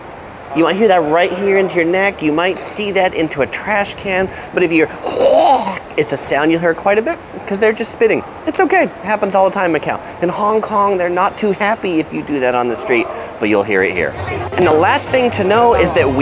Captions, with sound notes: You might hear that right into your neck, you might see that right into a trash can, But if you hear (hacks) it's a sound you will here quite a bit cause they're just spitting, it's okay. It happens all the time in Macau. In Hong Kong they're not to happy if you do that on the street, but you will hear it here. And the last thing to know is that